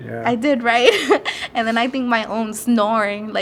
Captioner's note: laughs